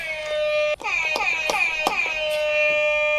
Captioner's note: keep buzzing